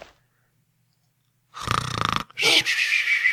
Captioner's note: snoring